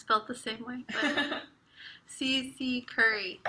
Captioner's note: laughs